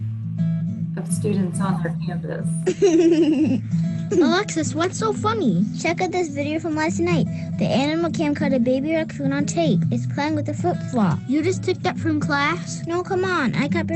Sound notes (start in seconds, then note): 0.1 cheerful music; 2.6 laughing